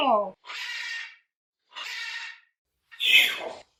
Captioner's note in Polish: krzyki ary